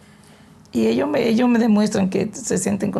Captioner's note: speaking spanish